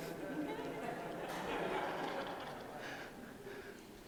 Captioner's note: laughter